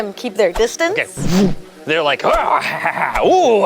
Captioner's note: whooshes; evil laughs